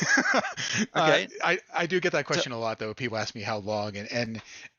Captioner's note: laughter